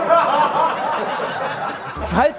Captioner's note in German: Gelächter